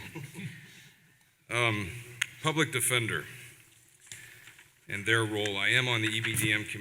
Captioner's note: laughter